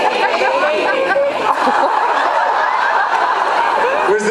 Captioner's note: laughs